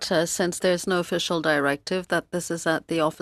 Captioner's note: speaking French